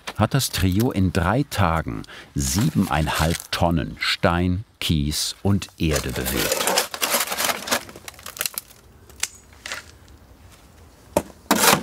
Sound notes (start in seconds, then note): 5.8 sound of shovels